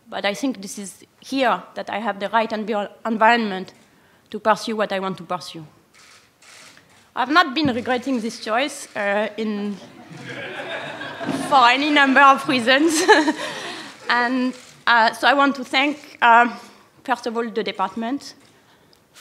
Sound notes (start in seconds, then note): 9.8 laughter